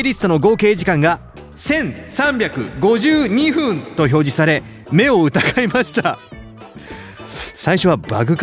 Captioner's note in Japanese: 笑い